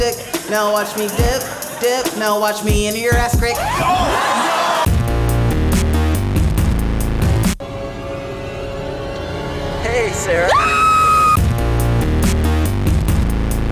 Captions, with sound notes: now watch me dip dip now watch me into your ass crack OH!!! NOO!!!! Hey, Sara- *screams*